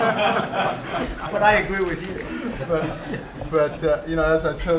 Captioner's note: laughter